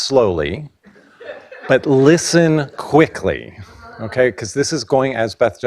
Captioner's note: laughing